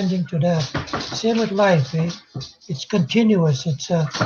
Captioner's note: speaking Indigenous language